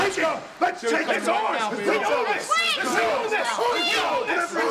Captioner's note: group chattering